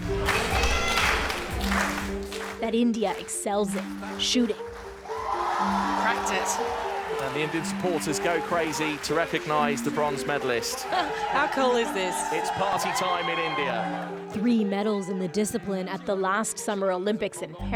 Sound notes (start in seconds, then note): 5.3 applause